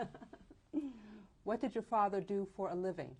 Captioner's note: laughs